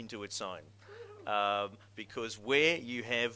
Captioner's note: audience member cheers